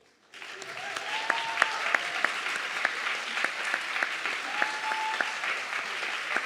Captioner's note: audience clapping and cheering